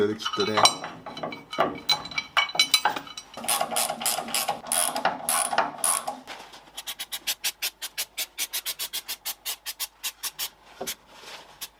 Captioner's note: working sound